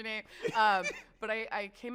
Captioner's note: laughs